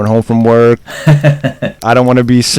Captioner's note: laughs